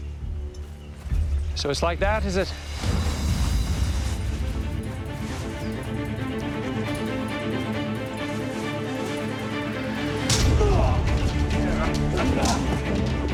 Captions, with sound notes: So it's like that, is it? [thrilling music] [men brawling]